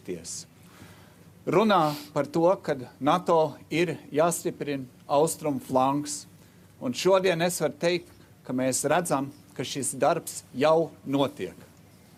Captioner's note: speaking Alternate Language